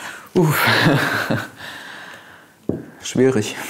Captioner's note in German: Er atmet schwer